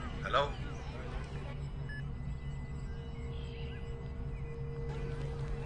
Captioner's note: background chattering